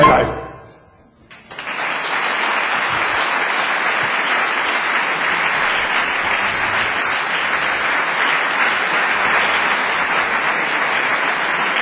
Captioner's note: applause